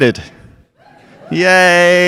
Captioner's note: audience cheering